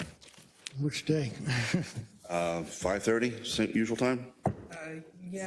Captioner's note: laugh